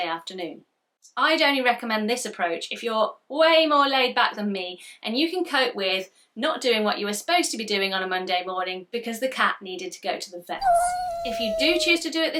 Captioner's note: cat sound effect